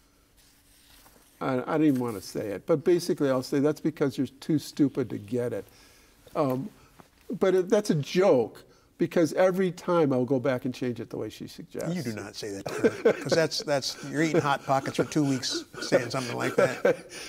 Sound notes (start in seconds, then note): 12.6 laughing